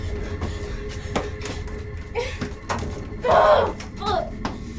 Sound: Heather panting

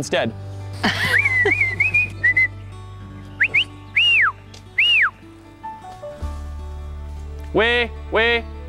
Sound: whistles

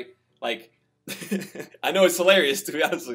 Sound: laughs

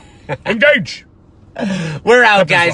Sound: laughs

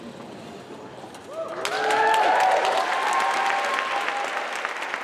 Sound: cheering

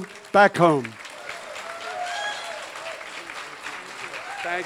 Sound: crowd applauds

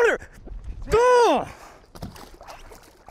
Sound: yelling

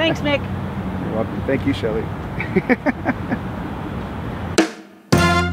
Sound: laughs; upbeat horn music

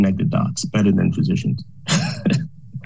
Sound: laughs

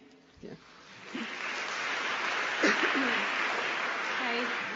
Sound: applause

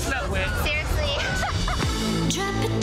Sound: laughs

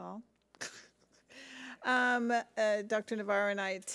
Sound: laughs

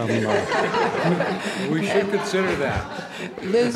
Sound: laughter

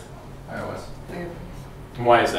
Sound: chatter

